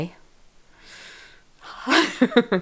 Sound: sigh

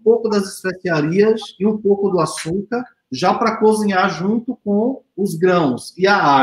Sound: speaks portuguese

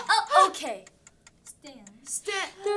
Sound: timer clicking

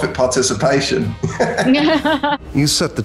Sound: laughter

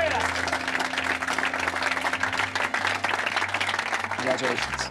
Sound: applause

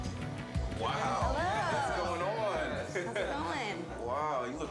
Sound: chuckles

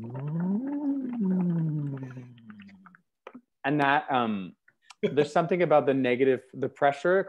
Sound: vocal sound in water

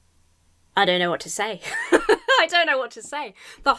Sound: laughs

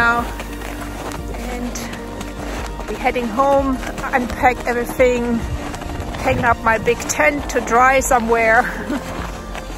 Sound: laughs

